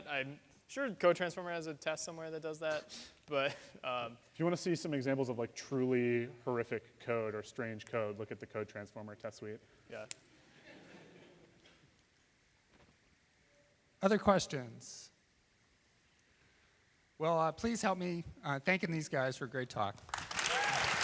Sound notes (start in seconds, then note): 10.4 laughter; 20.0 applause